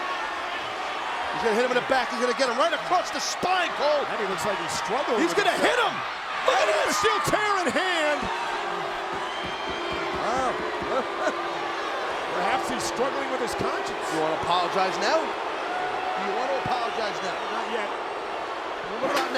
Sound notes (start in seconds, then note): 8.6 crowd booing; 10.8 chuckles